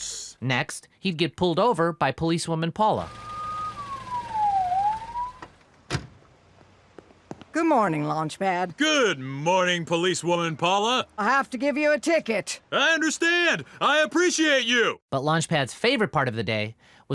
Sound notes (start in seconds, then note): 3.0 police siren; 5.8 car door; 6.8 footsteps